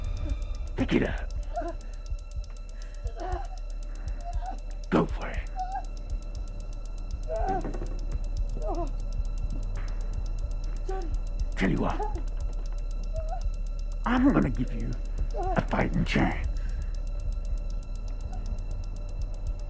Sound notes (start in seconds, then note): 1.3 Sue groaning; 7.3 bat rattling